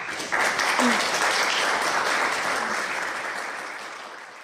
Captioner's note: audience applauding